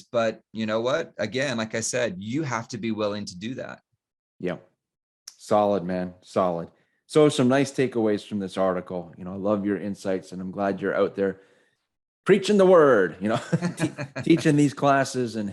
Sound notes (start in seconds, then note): 13.5 laughs